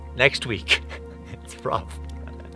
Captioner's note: laughing